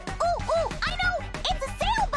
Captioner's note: none